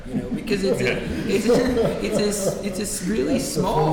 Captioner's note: laughing